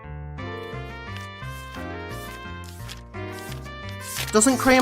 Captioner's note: pages flipping